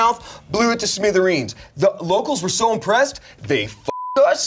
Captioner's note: beep